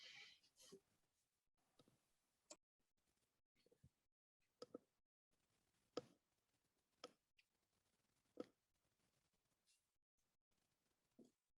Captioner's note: silence